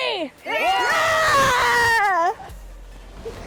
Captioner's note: all cheering